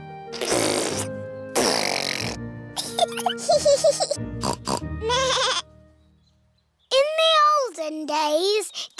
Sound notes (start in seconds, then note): 0.6 sputtering; 2.7 both giggling; 4.7 snorts; 5.0 bleats